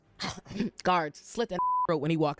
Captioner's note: beep